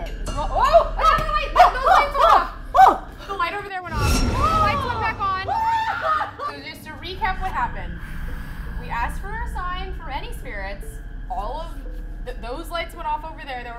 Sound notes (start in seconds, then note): 5.4 screaming